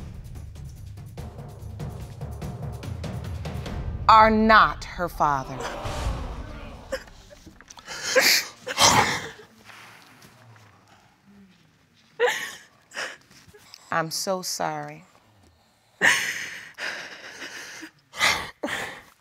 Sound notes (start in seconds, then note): 7.8 sobbing; 16.0 sobbing continues